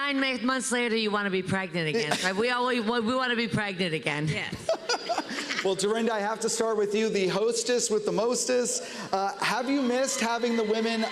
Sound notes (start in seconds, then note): 4.6 laughs